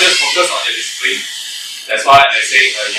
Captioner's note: door screeching